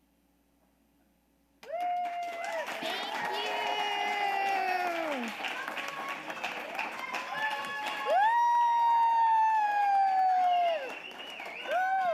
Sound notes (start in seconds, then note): 4.6 audience applauding